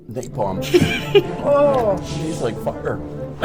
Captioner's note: groans